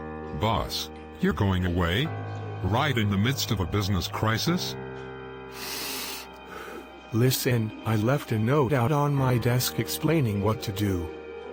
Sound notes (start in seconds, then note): 5.5 sighing